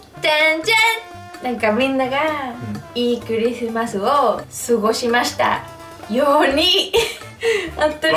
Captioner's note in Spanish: mal dicho en japonés